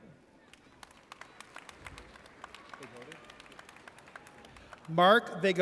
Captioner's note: audience applauds